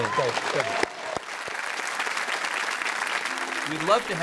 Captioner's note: clapping